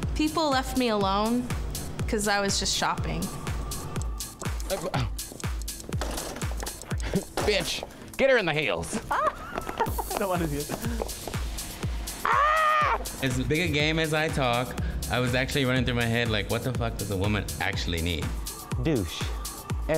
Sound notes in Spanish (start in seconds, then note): 5.9 carritos chocan; 8.9 riendo; 12.6 gritando